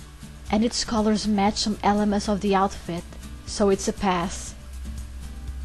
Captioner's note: whispering